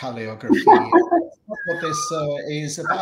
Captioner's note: laughter